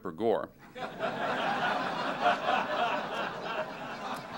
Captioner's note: laughter